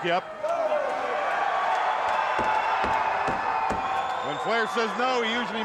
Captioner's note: crowd roaring